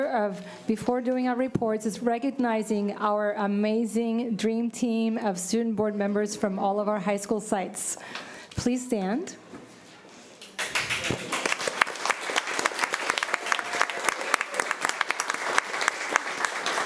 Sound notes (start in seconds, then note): 10.4 applause